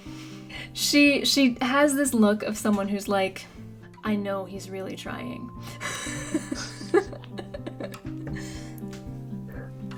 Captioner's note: laughs